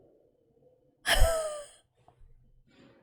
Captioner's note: laughs